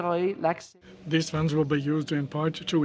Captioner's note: speaking French